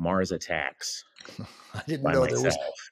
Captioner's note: chuckles